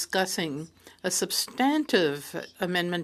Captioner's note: speaking French